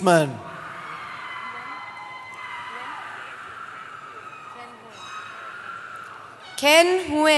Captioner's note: cheering